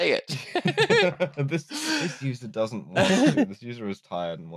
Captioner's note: laughter